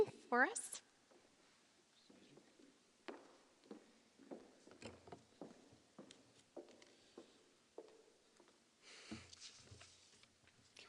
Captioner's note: footsteps